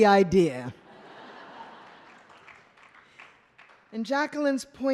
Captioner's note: laughter